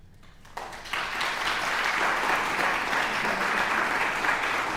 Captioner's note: audience applauding